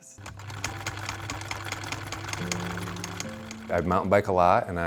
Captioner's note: sewing machine whirring